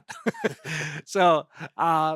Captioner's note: both laughing